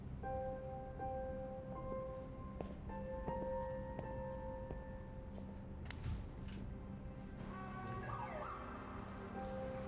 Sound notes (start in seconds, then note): 7.1 car honks; 7.5 siren wails